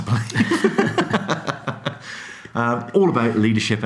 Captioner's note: laughing